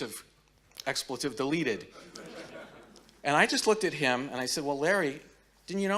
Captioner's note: audience laughing